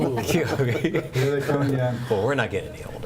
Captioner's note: chattering